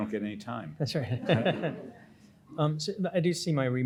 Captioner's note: laughs